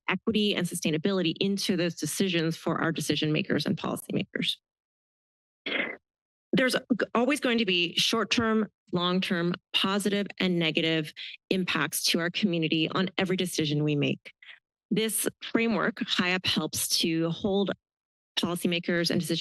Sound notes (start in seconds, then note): 5.7 microphone noise